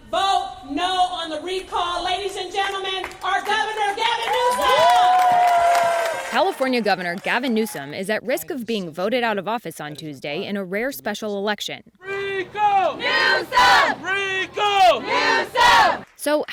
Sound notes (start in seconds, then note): 5.2 crowd cheering; 12.1 crowd